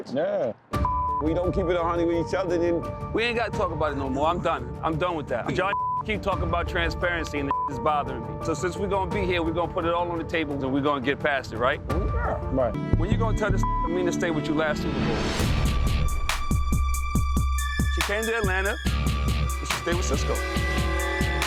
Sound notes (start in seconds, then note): 5.6 beep; 7.5 beep; 13.5 beep; 16.0 upbeat music